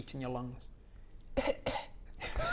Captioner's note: cough cough